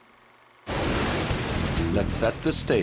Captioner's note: lightning cracking